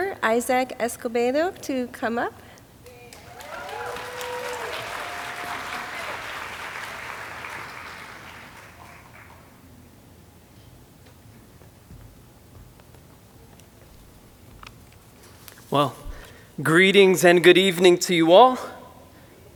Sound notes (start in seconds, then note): 2.8 audience applauding